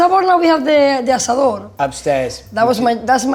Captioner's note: speaking foreign language